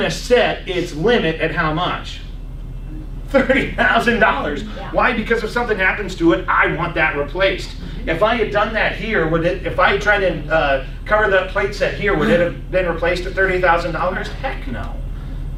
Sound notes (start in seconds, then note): 3.3 laughs